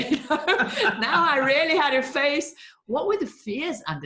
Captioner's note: laughing